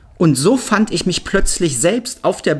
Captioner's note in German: none